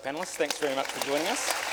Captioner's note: applause